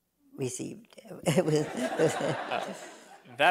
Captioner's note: laughter